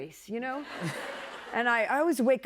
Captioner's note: laughter